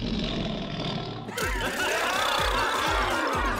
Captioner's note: laughing